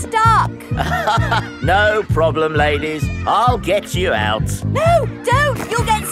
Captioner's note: chuckles